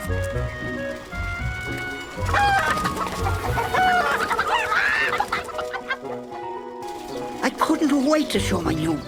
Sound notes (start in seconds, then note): 1.6 squawking